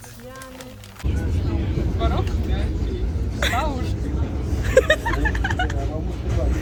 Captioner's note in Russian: смех за кадром